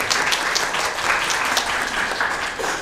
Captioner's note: applause